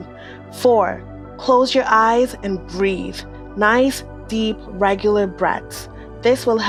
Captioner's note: nice deep, regular breaths